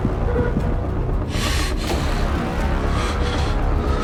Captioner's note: deep breath